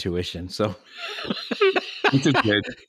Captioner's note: laughing